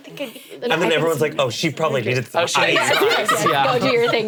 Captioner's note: all laughing